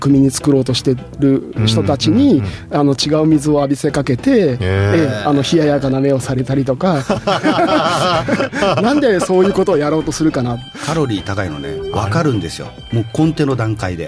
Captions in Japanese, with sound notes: ええ、あの、冷ややかな目をされたりとか、な [笑い] んでそういうことをやろうとするかな? カロリー高いのね、分かるんですよ。もうコテの段階で。